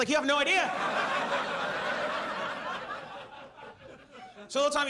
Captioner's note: audience laughs